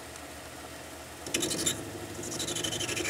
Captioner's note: rattling